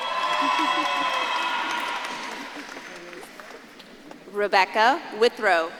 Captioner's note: audience claps and cheers